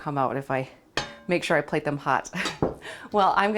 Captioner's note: chuckles